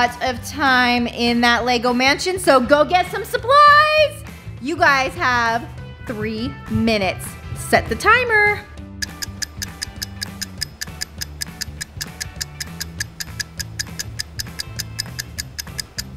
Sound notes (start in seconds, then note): 9.0 clock ticking